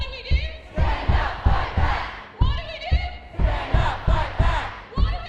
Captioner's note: protest Sounds